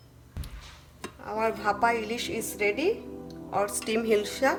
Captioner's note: speaks in foreign language